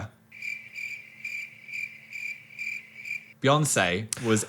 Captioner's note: crickets chirp